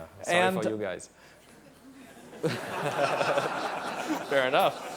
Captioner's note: laughter